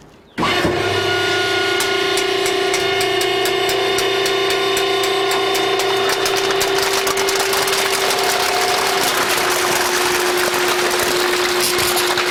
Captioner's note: sound of the scrap metal compacting machine crushing cans